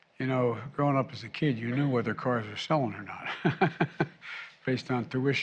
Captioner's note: laughs